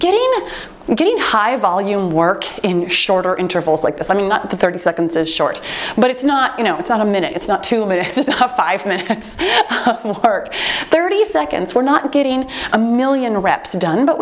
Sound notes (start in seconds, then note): 8.0 laughs